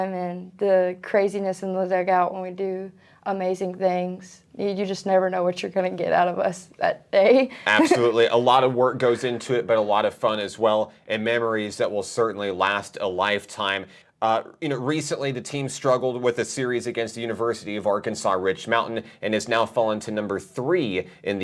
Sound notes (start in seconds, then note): 7.7 chuckling